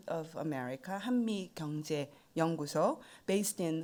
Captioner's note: speaking in foreign language